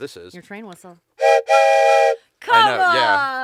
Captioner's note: train whistle noise